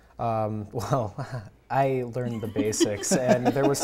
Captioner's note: laughs